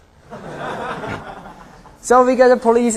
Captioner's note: laughter